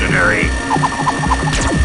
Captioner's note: fwoosh!; pew!